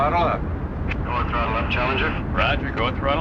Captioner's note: man On Radio